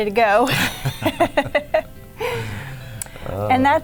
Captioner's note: laughing